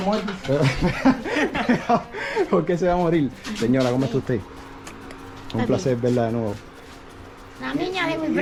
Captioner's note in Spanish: risas